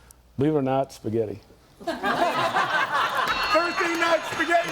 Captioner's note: group laughs